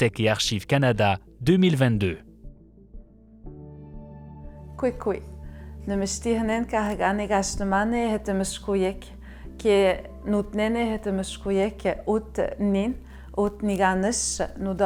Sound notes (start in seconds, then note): 3.8 speaking Innu-aimun